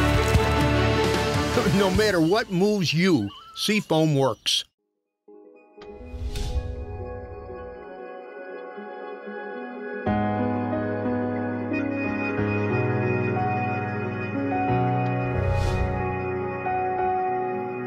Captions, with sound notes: - [Voiceover] No matter what moves you, Sea Foam works. (calm piano music)